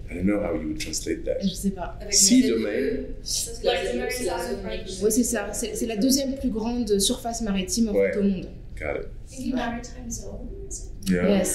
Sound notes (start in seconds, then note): 3.8 speaking french; 6.2 speaking french